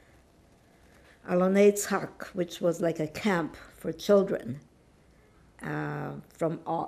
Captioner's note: hebrew